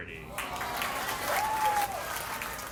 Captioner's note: crowd cheers